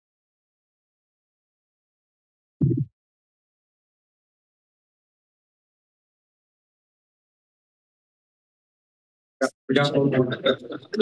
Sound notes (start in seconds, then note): 0.0 silence; 2.6 thud; 3.2 silence; 9.4 background conversations